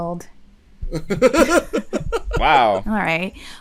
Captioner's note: laughter